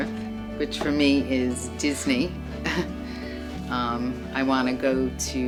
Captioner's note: laughs